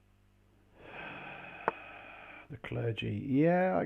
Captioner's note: sighs